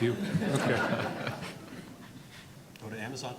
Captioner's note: audience laughing